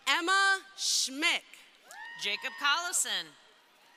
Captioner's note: crowd cheering